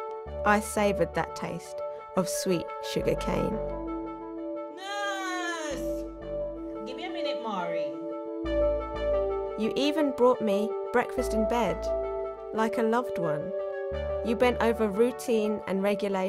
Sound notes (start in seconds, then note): 4.5 distant voice